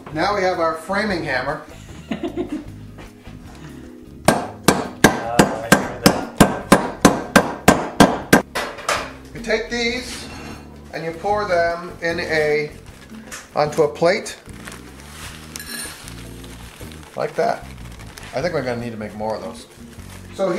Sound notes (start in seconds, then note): 1.8 laughing; 6.5 banging